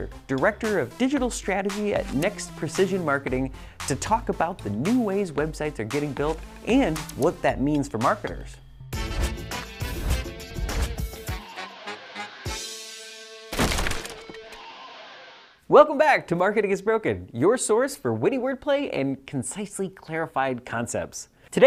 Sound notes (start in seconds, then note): 8.7 upbeat music; 13.5 wood collapsing